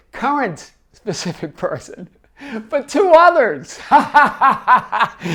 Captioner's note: laughs